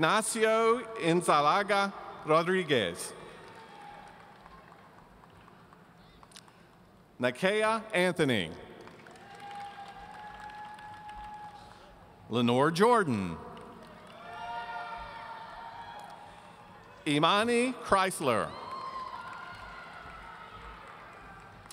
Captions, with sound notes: Ignacio Insalaga Rodriguez. Nakeia Anthony. (audience applauding) Lenore Jordan. (audience cheering) Imani Chrysler. (audience cheering)